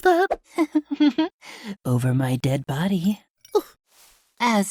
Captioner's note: chuckles